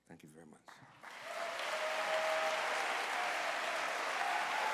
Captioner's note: applause